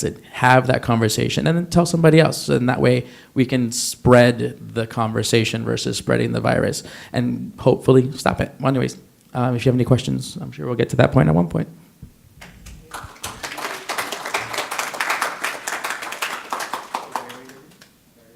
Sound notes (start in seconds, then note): 12.4 applause